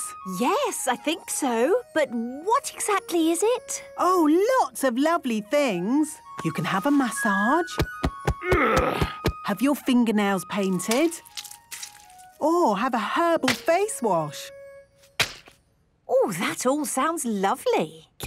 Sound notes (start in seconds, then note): 7.8 thumping; 8.4 moaning